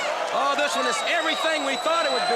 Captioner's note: crowd cheering